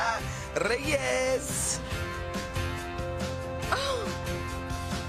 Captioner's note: speaking in foreign language